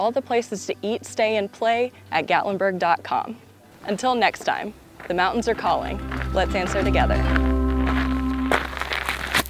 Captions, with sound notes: all the places to eat, stay, and play at gatlinburg.com. Until next time, the mountains are calling. Let's answer together. [footsteps] [upbeat guitar music fades]